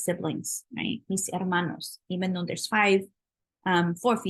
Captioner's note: spanish